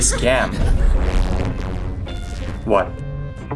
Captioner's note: sfx: ghostly explosion